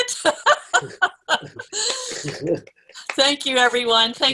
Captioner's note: laughter